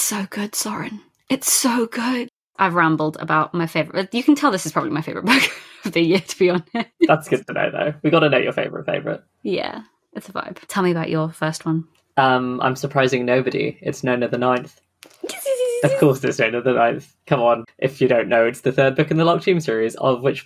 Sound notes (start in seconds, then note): 3.9 laughing